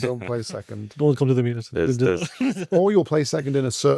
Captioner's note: laughs